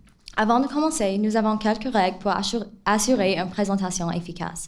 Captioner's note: speaks in foreign language